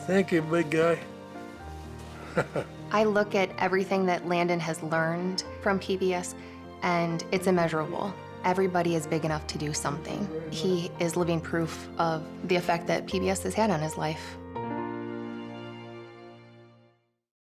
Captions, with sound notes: - Thank you, big guy. (chuckles) - I look at everything that Landon has learned from PBS and it's immeasurable. Everybody is big enough to do something. He is living proof of the effect that PBS has had on his life.